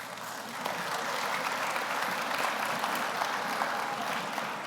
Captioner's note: audience applauds